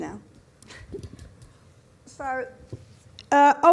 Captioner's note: giggles